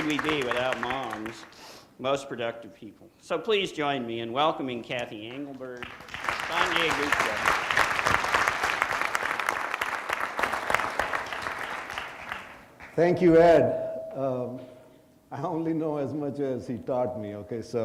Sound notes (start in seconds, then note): 8.0 audience applauding